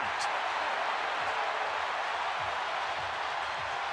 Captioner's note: cheering